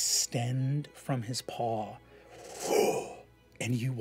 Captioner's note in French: bruit de sort